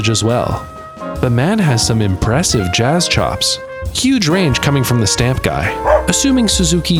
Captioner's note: woof!